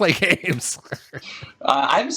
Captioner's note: laughs